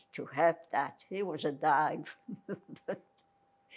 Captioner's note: laughing